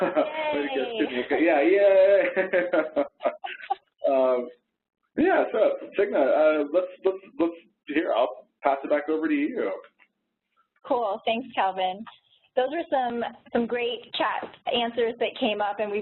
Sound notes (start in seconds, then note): 2.0 laughs